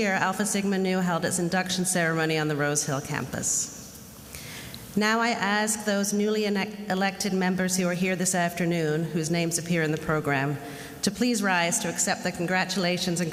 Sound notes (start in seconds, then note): none